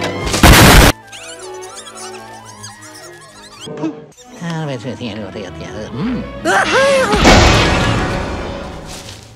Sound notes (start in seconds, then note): 0.4 explosion; 0.9 squeaky Noises; 4.9 mumbling; 7.2 piano Slam